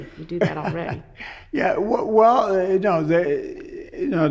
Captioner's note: laughs